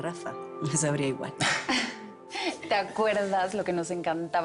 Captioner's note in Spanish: Risas